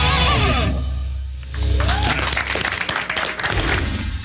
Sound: applause

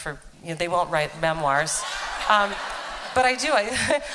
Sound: laughter

